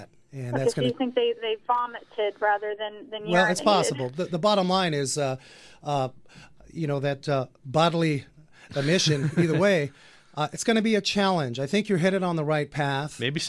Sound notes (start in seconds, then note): 8.7 laughs